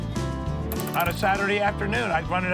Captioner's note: plunger sound